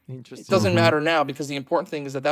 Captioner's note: laughs